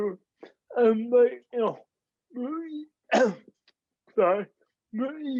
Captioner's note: coughs